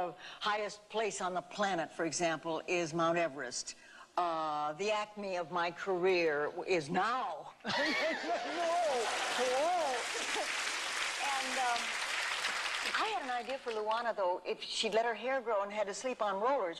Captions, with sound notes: the highest place on the planet, for example, is Mount Everest. The acme of my career is now. (laughter) (clapping) I had an idea for Luana, though, if she'd let her hair grow and had to sleep on rollers